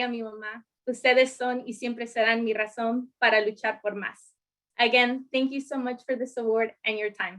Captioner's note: speaking in spanish